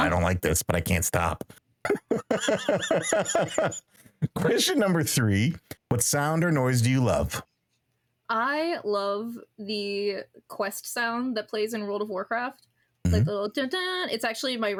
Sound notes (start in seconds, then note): 1.8 laughing